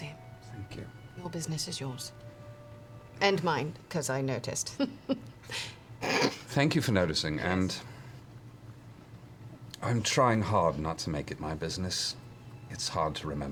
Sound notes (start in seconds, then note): 4.8 chuckles; 5.8 snorts